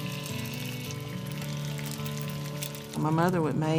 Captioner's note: pan sizzling